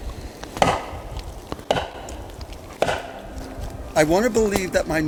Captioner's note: bat thunking